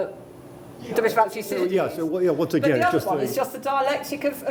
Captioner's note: voiceover